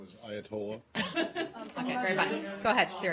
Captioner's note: laughter